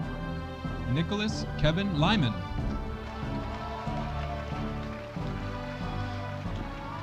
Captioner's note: audience applauding